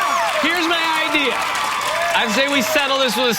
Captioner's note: audience cheers